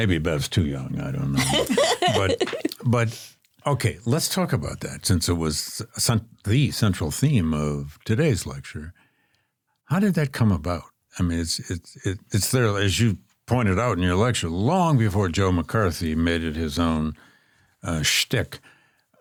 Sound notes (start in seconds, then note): 1.3 laughs